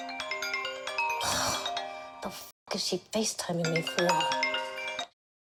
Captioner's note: phone ringing; sighs